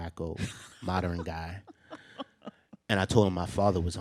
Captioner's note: laughs